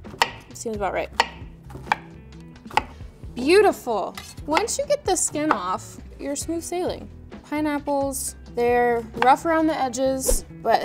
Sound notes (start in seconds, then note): 2.7 knife hitting cutting board